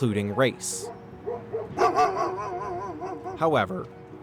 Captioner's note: dog barking